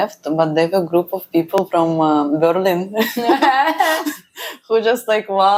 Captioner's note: laughs